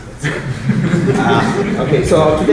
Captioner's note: laughter